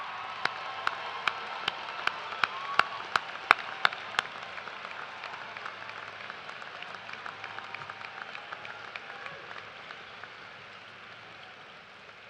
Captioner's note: cheers and applause